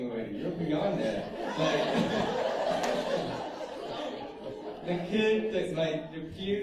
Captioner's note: laughter